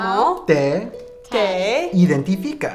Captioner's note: speaking in a foreign language